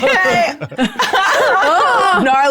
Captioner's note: laughs